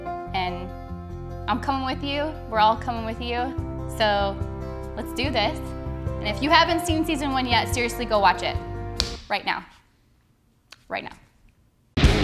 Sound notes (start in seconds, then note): 9.0 smacks hand; 12.0 energetic music